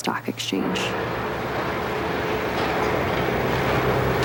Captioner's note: building rumbling